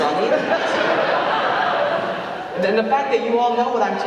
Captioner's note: audience laughing